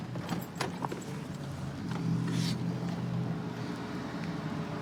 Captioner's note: distant traffic hum